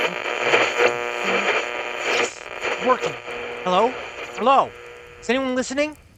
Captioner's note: static